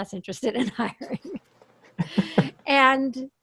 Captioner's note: laughs